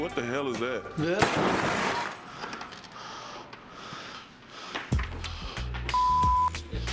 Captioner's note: crash